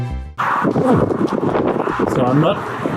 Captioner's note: major wind noises